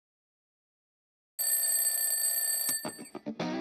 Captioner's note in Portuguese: despertador tocando